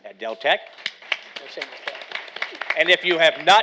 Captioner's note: audience applauding